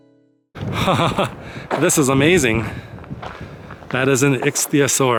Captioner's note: laughs